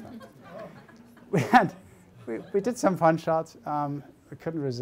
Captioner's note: audience chuckling